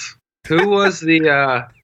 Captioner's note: laughs